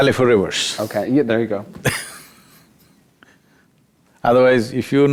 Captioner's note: Sadhguru Laughs